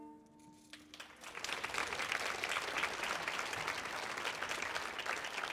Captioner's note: audience applauding